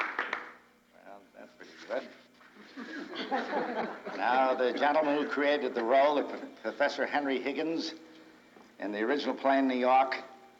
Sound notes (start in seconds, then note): 2.5 crowd chuckles